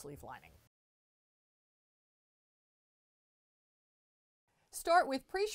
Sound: no Sound Present

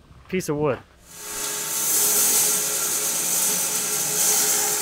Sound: saw whirring

